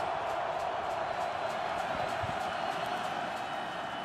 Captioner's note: crowd cheering